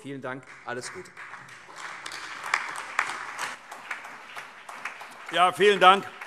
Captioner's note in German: Beifall